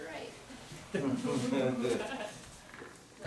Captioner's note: laughter